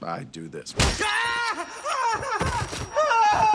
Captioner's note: high-pitched ringing; shouting; screaming